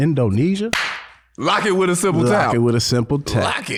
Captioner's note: claps